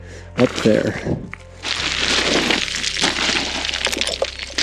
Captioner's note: gravel rattling